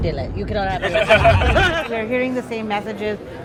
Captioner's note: people chuckle